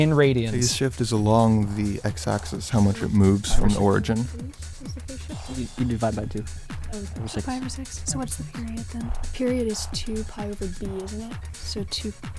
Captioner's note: wispering